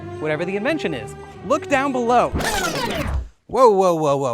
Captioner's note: record scratching